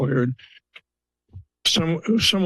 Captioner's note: pause